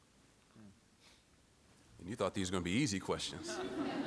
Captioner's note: laughter